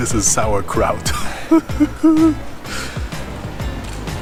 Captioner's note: laughs